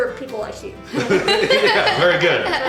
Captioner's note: laughter